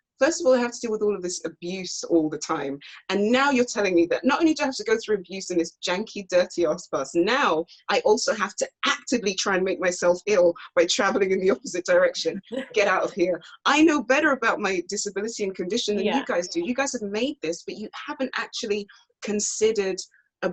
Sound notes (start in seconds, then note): 12.8 laughs